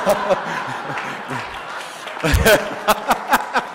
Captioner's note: laughter